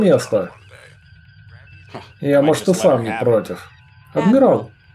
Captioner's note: laughs